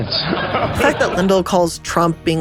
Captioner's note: audience laughing